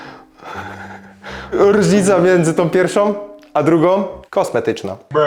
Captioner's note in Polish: westchnienie